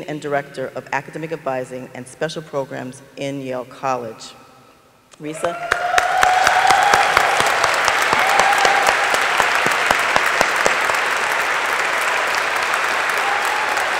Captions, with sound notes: and Director of Academic Advising and Special Programs in Yale College. Risa. (audience applauding) (audience cheering)